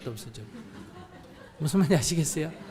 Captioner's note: audience Laughter